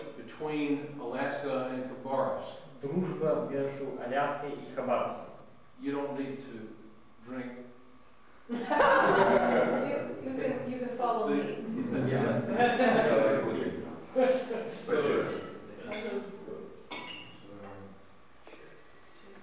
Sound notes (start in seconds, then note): 4.2 non-english speech; 8.5 laughter